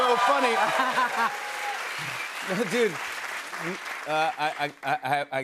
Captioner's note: laughs